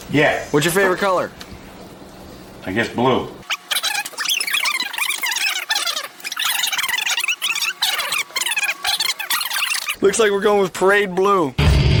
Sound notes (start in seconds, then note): 3.5 sped up blah blah blah